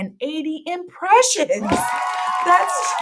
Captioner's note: audio: cheering